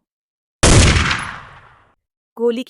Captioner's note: gunshot